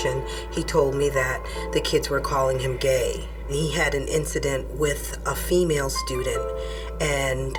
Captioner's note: none